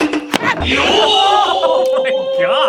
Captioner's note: yoooo-oooh; laughing